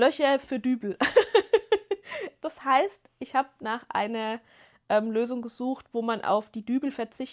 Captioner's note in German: gelächter